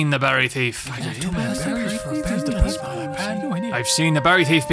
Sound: villagers muttering

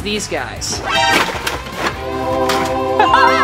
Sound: wheels clattering; laughs

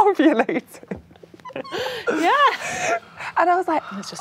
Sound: laughing

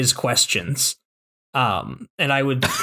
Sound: laughter

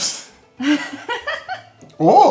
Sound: laughing

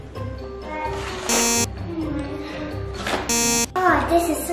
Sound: beeps

